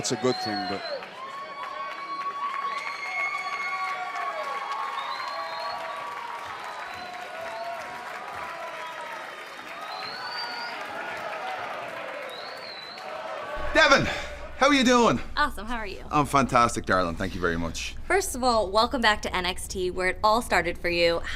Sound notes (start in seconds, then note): 4.5 cheers and applause